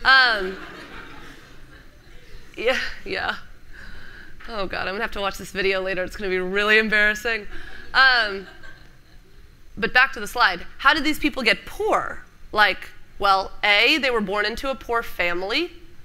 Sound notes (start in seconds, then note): 8.3 laughter